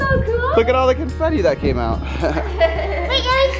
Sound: shrieks; laughs

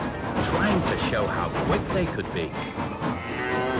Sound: none

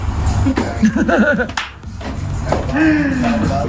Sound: laughter

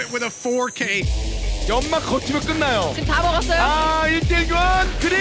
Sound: foreign language

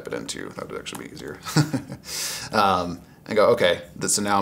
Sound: chuckles

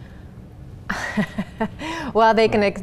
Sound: laughs

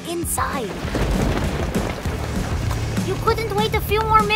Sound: thunder cracks

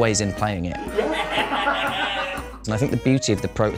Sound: laughter

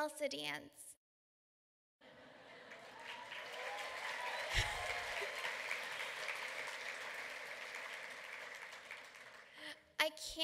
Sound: applause

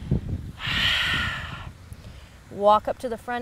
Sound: exhales

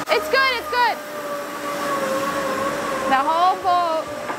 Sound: machinery whirring

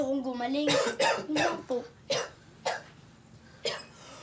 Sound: Samuel coughing

